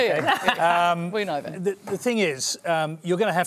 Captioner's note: laughs